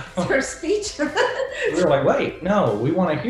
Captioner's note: laughing